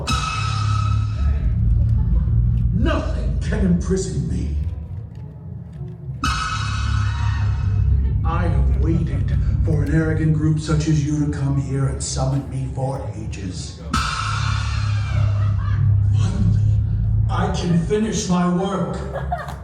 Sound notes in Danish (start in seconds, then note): 0.0 høj note dunkende; 13.9 høj tone dunker